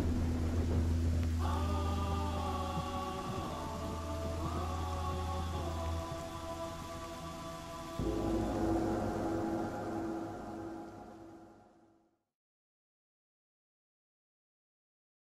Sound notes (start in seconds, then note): 8.0 gong ringing